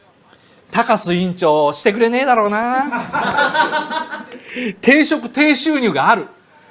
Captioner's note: laughs